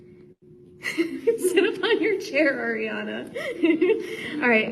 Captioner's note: laughs